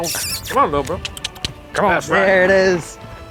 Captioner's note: making kissing sounds